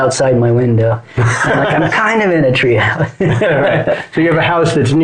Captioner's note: laughs